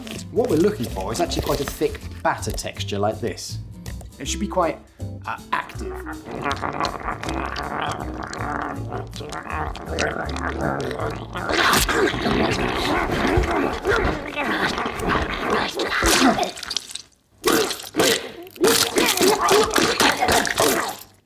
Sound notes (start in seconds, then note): 6.2 cheeky little batter beast grumbles; 11.6 spoon chomp